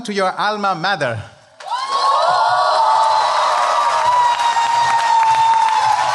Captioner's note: cheering